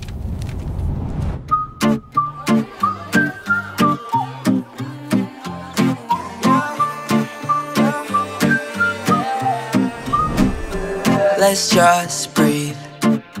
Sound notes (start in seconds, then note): 1.6 vocalizing; 1.6 whistling